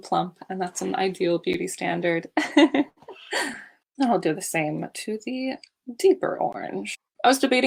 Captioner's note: laughs